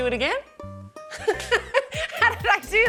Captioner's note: laughs